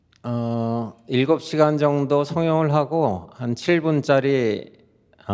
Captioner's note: speaking in Korean